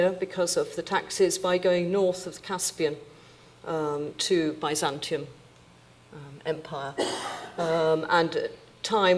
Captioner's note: audience member coughs